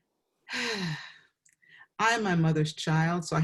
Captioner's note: exhales